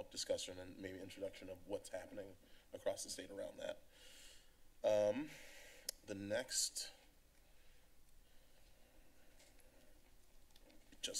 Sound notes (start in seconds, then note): 3.9 inhales; 5.4 clicks Tongue